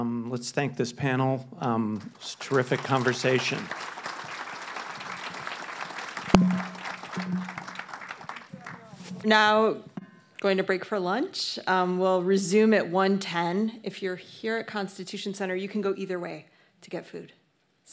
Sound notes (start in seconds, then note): 4.1 audience applauds